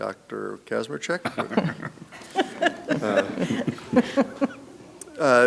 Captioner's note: board members laughing